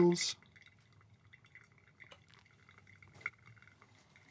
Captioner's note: coffee trickling